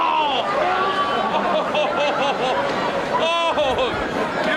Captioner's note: laughing